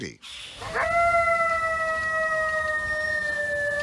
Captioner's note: coyote howls